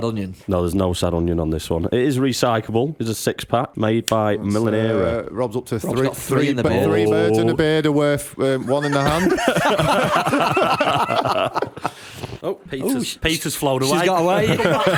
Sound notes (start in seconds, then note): 8.6 laughter